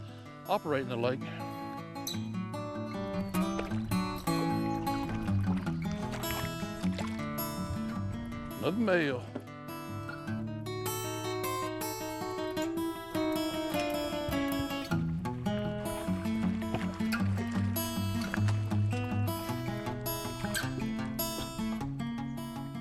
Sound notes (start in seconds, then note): 0.0 twangy acoustic music; 0.3 water splashing; 6.9 twangy acoustic music; 13.5 water splashing